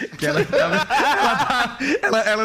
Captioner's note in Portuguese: risos